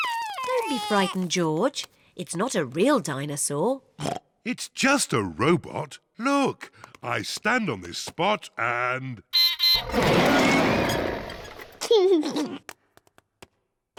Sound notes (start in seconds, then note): 3.8 oinks; 9.4 beeps and roars; 11.6 laughs